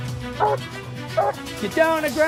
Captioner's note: dog barking